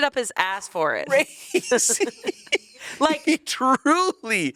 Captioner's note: laughs